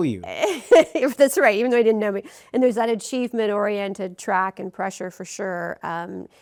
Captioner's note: rires